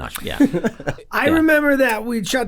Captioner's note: Rob laughs